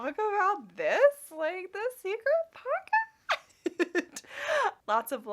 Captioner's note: laughing